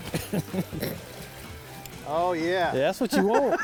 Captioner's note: both laughing